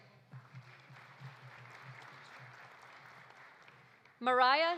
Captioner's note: audience applauding